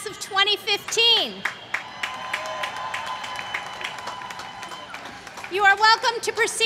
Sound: applause

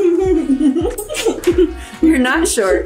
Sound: laughing

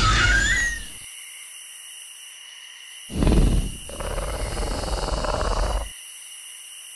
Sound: dino noise; dino grunts

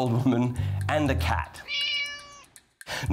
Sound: meows

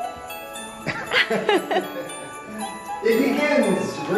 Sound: upbeat festive music; laughing

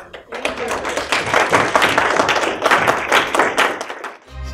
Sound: applause

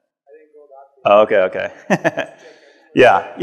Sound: laughs

